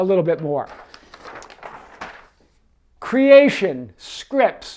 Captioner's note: paper rustles